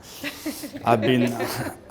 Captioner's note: all laughing